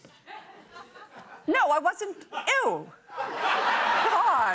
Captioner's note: laughter